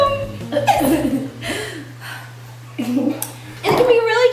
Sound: sighing

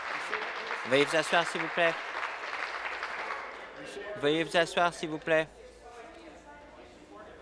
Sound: applause

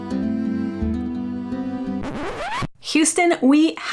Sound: record scratch

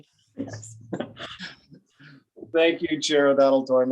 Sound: chuckling

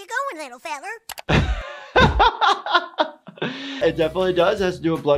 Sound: laughs

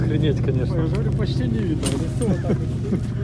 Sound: laughter

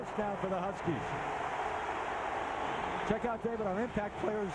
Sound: cheering, applause

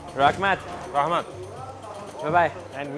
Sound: speaking foreign language

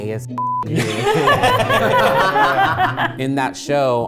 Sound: beep; everyone laughing

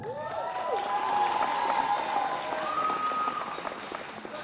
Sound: cheers

